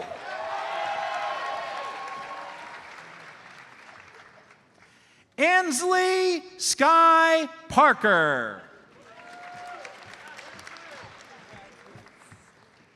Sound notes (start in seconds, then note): 0.0 audience cheers and applauds; 9.0 audience applauds